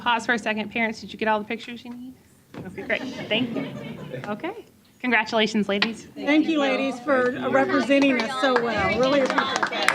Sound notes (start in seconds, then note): 2.7 chuckles